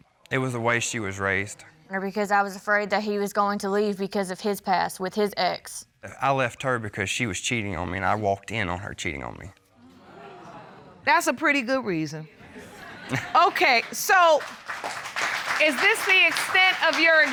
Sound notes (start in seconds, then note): 13.1 chuckles; 13.4 applause